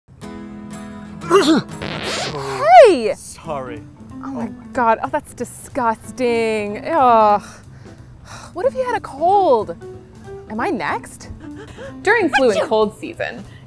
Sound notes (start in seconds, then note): 1.2 sneeze; 1.7 record skip sound; 11.1 sneeze